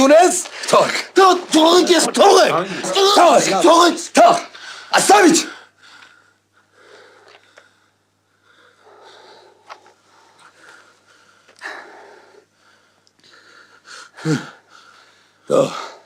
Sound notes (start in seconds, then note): 6.6 in Russian